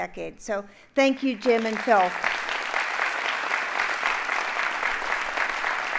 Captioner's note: audience applauding